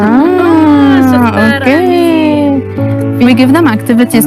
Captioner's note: speaking foreign language